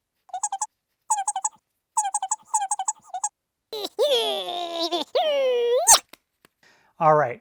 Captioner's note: comical squeaking and grunting noises